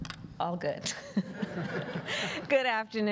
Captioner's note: laughter